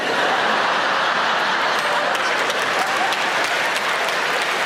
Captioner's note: audience applauding